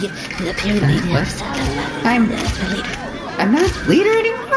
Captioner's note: whispering